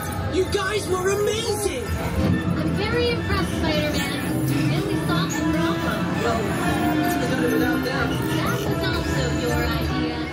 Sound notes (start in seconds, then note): none